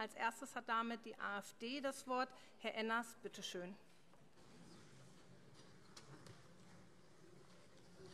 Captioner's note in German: none